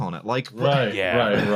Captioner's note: sighs